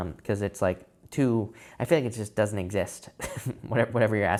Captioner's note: chuckles